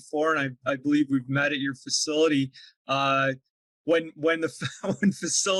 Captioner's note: chuckles